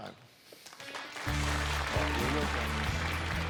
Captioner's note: cheers and applause